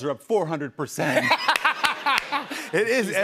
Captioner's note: laughter